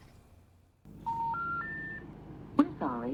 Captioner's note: phone beeping